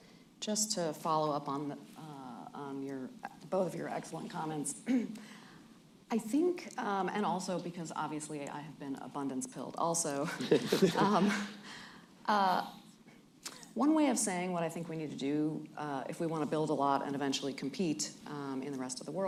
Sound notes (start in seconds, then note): 10.2 laughter